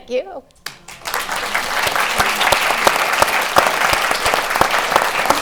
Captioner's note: applause